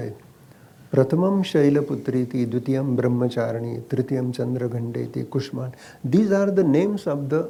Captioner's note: speaks in Sanskrit – not transcribed